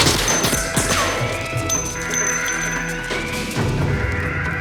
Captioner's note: alarm sounding